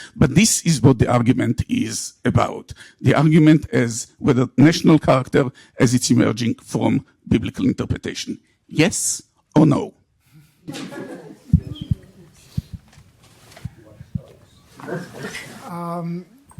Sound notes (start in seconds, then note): 10.6 audience laughs